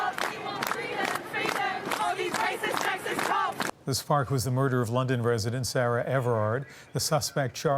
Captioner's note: chanting